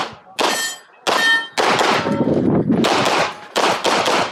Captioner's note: targets pinging; gunshots banging